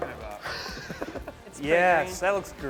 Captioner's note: laughs